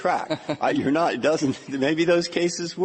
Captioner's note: laughter